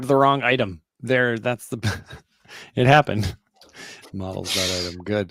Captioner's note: chuckles